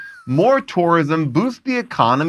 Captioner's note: laughs